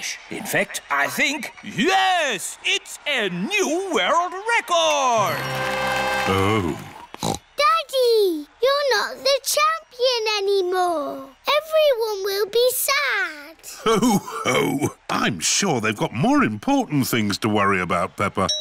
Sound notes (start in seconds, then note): 6.6 snorts